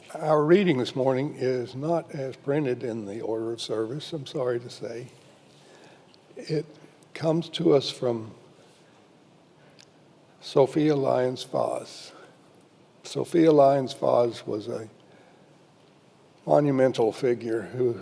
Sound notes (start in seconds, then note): none